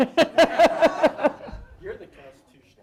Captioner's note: audience laughing